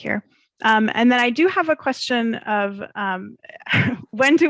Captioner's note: chuckles